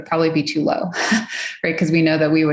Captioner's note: laughs